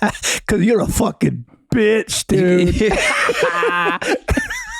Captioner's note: laughs; all laugh